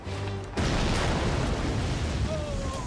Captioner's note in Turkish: Patlama sesi